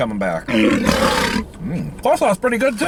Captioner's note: tiger growling